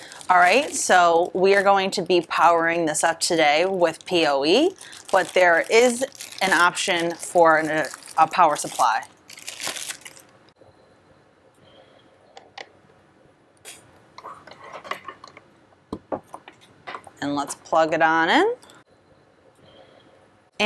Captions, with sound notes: All right, so we are going to be powering this up today with POE, but there is an option for a power supply. (plastic wrapper rustles) (cord scrapes) And let's plug it on in.